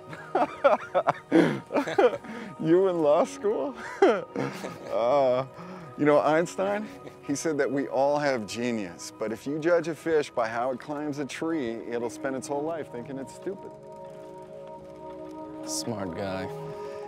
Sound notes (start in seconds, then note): 0.0 both laughing; 4.0 laughs